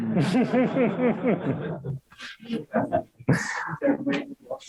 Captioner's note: audience laughs